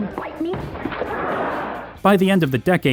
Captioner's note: audience laughs